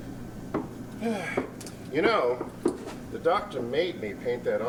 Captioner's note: sighs